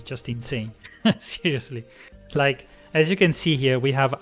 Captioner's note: laughs